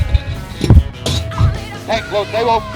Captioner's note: ammunition thuds